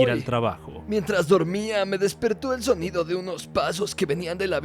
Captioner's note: horribly-dubbed in Spanish